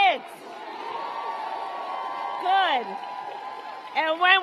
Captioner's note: applause